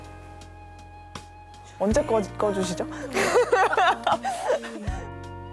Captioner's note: laughs